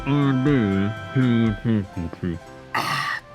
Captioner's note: muffled under mask